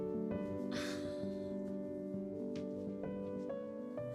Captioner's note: soft music continues; Cassie laughs